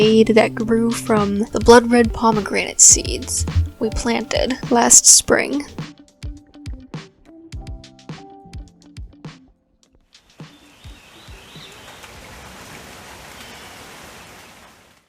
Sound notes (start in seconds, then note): 5.8 music fades out; 10.4 ambient rain sounds and bird calls